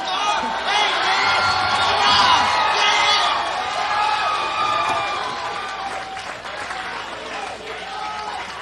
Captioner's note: audience Cheers